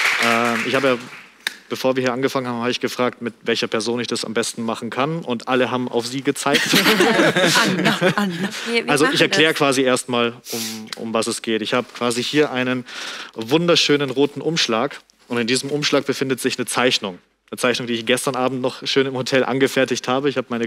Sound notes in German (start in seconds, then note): 6.5 Lachen